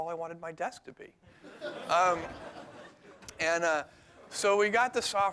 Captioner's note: laughter